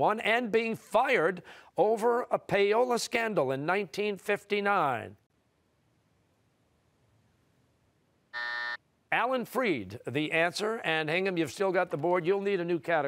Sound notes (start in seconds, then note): 8.3 buzzer